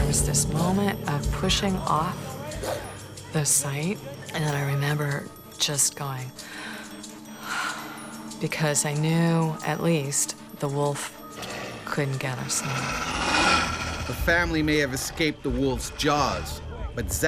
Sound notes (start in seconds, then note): 7.5 exhales; 14.1 voiceover